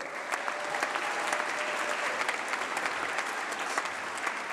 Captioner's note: applause